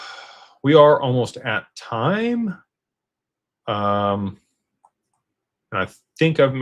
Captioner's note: sighs and gasps